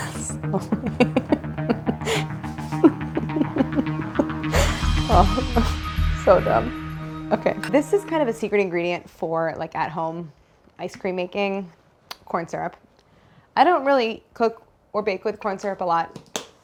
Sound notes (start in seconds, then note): 3.1 chuckling